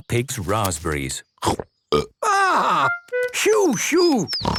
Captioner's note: burps